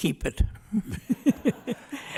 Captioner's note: laughs